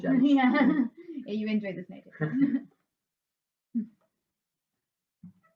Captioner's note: laughter; laughter